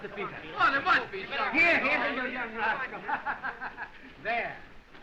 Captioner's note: laughing